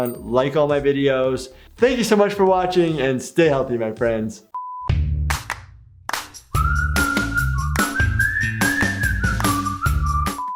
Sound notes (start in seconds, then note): 4.5 screen beeps; 6.2 cheerful music